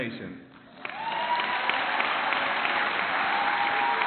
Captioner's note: clapping